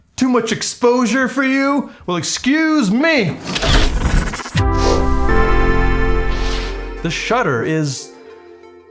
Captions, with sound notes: Too much exposure for you? Well, excuse me! [metal rattles] [short synth jingle] The shutter is...